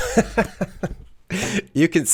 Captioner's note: man laughs